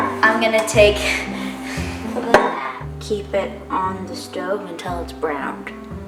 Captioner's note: laugh